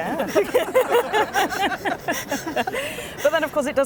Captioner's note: all laugh